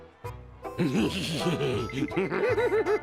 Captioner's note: laughing sinisterly